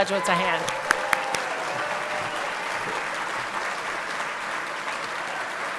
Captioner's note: everyone clapping and cheering